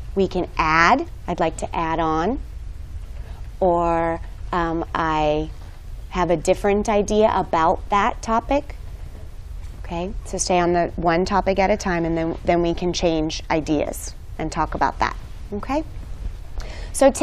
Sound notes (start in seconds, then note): none